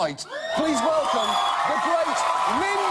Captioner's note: audience cheers